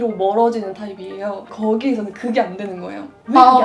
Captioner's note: on TV